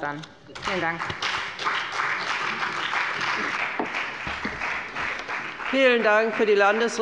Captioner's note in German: Beifall bei der FDP und Abgeordneten der SPD